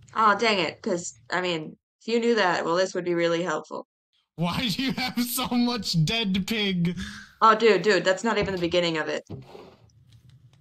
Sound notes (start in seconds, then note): 4.4 laughs